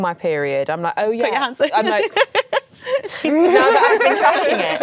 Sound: laughs

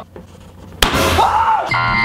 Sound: balloon pop bangs; suspenseful music note

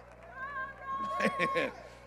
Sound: audience Agrees

